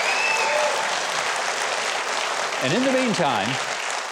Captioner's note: audience applauds